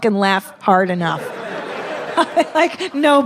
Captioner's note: audience laughing